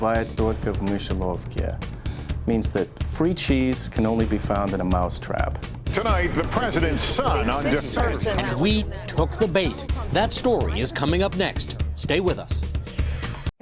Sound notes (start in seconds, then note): 7.2 speaking foreign language